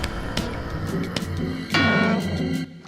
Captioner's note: shovel thuds